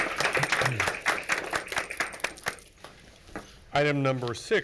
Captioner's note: all applaud